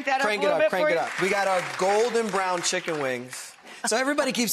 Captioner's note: audience claps